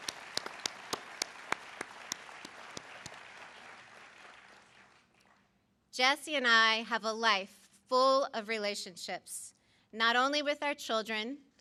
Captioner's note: applause